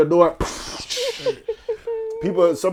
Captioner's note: splashing